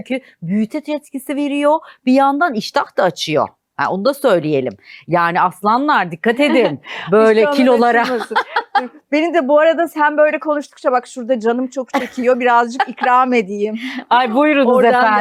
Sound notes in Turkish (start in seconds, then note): 7.6 kahkaha